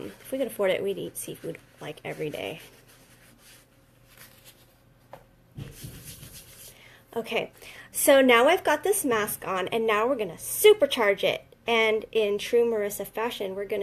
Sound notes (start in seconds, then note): 2.5 rustling; 5.6 hands rubbing